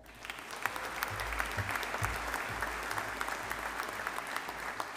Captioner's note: audience applauding